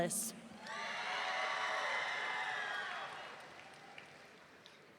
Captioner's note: audience cheering